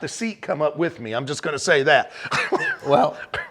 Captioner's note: laughs